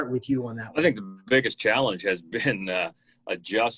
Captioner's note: chuckling